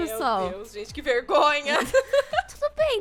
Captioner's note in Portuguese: risada